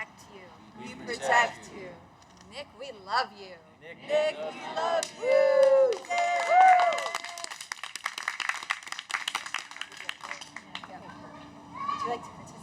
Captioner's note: cheers